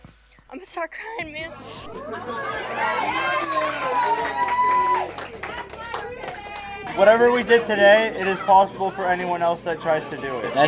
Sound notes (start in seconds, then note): 1.9 audience cheering